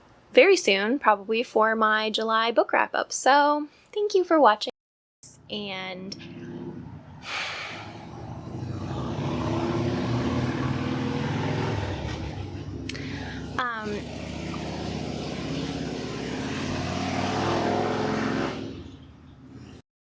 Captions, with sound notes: very soon, probably, for my july book wrap up. so thank you for watching! and [engine accelerates loudly outside] um [engine resumes accelerating]